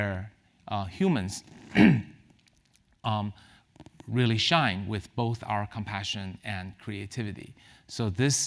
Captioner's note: cough